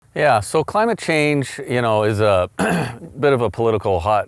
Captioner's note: clears throat